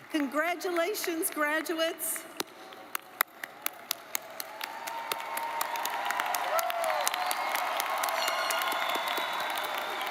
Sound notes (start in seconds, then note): 3.1 audience cheers and applauds; 3.6 claps